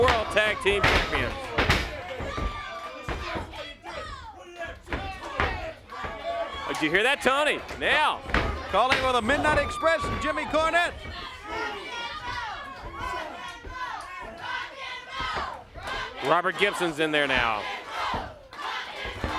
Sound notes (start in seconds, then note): 2.7 crowd chatter